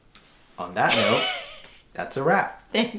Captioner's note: laughing